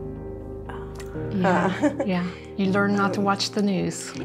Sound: laughs

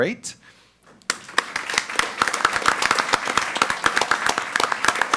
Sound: all applaud

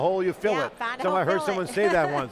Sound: laughs

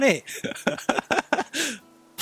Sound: giggle

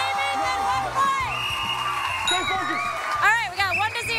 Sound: whistle blowing

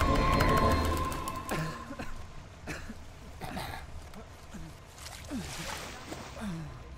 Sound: coughing

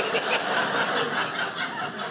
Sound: audience laughing

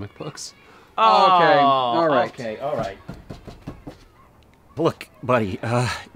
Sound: groans of disbelief

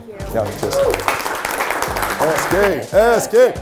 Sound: staff claps

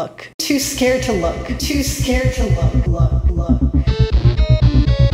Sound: echo; abrasive sounding music

